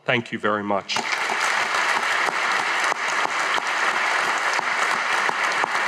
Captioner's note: audience applauding